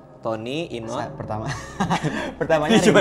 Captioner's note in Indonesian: ketawa